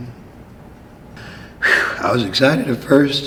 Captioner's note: sighing